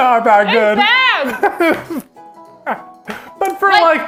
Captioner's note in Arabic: يضحك إيفان